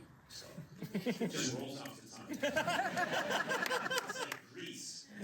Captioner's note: laughter